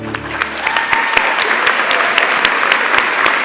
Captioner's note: applause